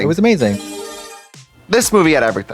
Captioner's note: bright chime